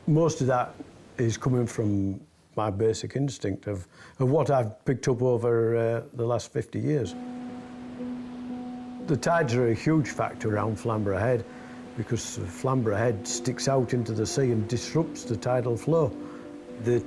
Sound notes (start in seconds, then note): 7.4 gentle music; 7.4 waves roaring